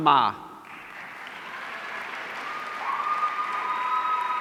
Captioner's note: audience cheering